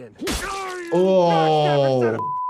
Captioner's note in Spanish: Deadpool gritando